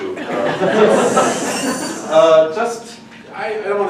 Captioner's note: audience laughing